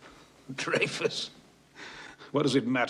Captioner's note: chuckles